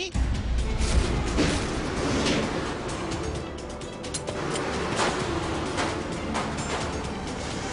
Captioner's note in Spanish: Disparos